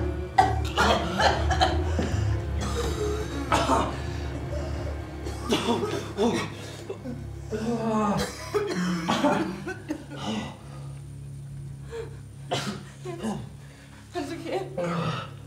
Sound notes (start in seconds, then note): 0.2 Marie coughing; 1.8 Jens breathes heavily